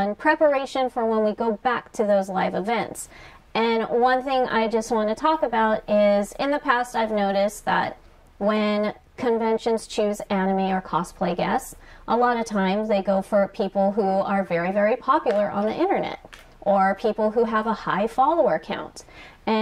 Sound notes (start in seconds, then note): none